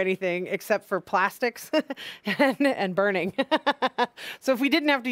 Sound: laughing

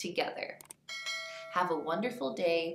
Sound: bell clangs

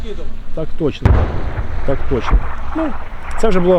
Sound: buzzing of a drone

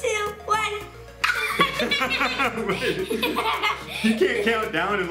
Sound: laughing

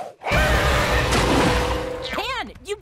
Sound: scary chord; monstrous roars; terrified scream; triumphant flourish

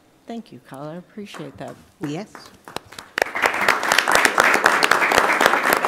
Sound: applause

